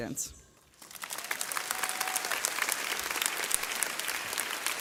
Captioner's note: audience clapping